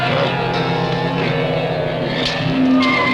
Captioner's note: grunting